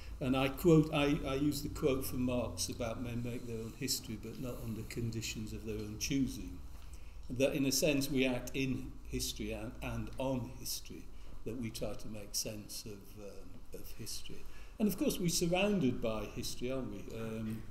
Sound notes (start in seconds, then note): none